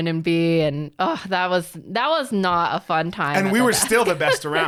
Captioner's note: groans